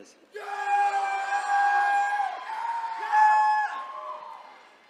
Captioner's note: attendees cheering